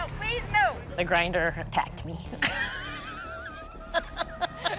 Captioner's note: laughs